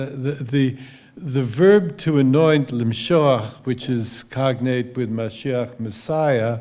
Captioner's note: hebrew